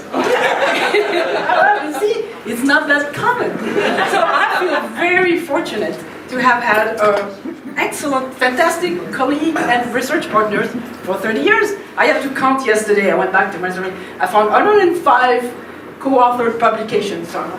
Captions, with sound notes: (laughing) You see it's not that common so I feel very fortunate to have had an excellent, fantastic colleague and research partner for 30 years. I had to count yesterday. I found 105 co-authored publications so almost half which